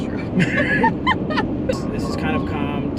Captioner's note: laughs